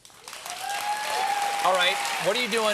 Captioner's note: applause